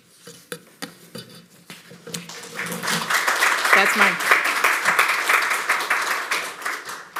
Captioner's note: applause